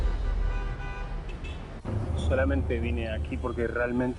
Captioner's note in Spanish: Ruidos del tráfico